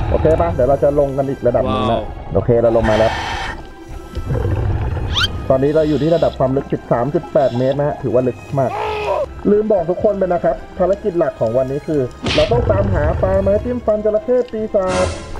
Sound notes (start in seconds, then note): 5.6 exhale